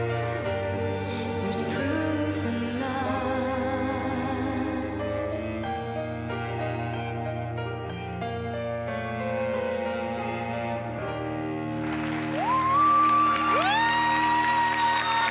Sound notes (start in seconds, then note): 11.7 cheering and applause